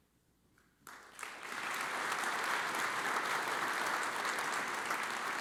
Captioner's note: audience applauds